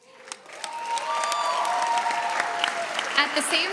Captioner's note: audience cheers